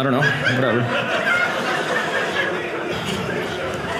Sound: audience laughing

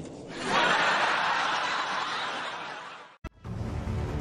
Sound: audience laughing

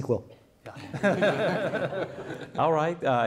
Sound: audience and panelists laughing

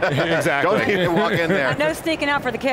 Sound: laughs

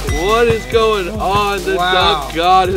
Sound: chime

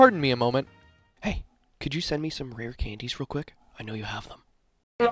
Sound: whispering; trombone sounds

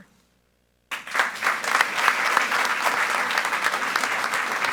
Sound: group applauding

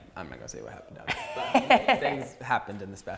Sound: laughs

